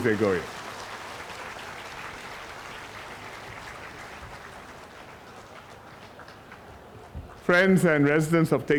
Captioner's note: 掌声 / applause